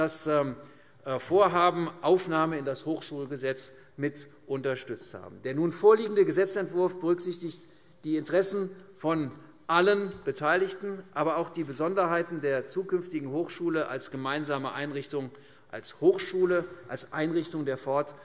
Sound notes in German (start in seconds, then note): none